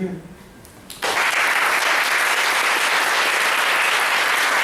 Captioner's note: applause